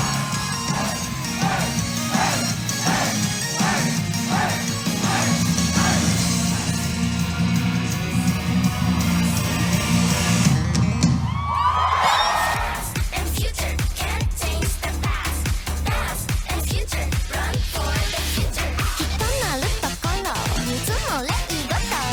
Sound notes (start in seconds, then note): 10.8 crowd cheering; 19.3 speaking foreign language